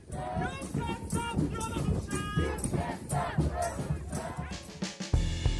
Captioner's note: people chanting